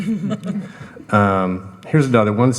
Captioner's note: panel laughing